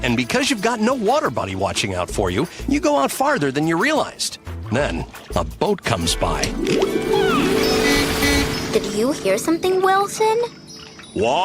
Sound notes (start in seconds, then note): 7.0 boat honking